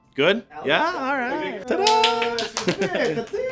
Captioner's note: clapping